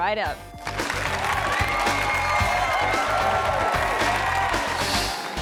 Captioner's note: audience applause